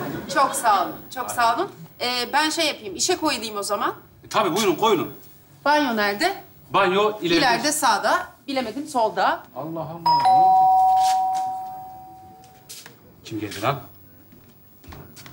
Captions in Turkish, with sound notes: Çok sağ olun çok sağ olun Ben şey yapıyım işe koyulıyım o zaman Tabi buyrun koyulun. Banyo nerde Banyo... -İlerde sağda Bilemedim solda -Allah Allah! (Zil çalar) Kim geldi lan